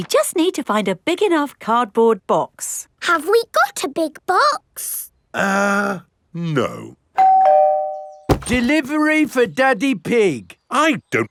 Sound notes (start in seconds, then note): 7.2 doorbell rings